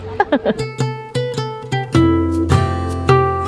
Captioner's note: laughs; mellow music